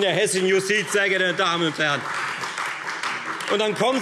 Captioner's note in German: Beifall